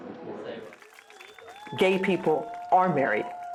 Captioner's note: crowd cheering